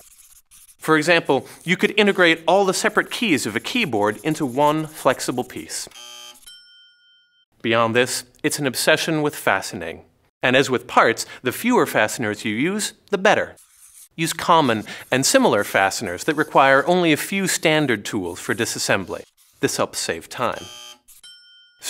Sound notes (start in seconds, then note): 5.9 buzzer; 6.4 dings